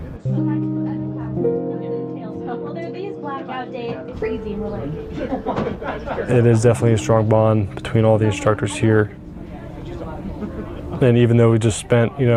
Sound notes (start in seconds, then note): 0.1 soft music; 4.9 laughs